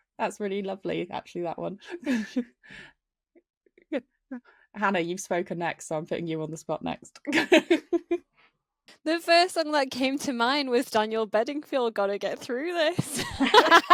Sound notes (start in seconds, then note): 8.5 laughs; 13.1 all laughing